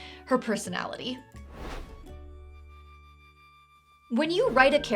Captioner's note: lively music; whoosh